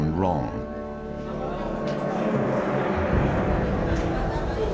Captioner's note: people chattering